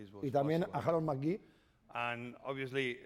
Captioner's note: speaking spanish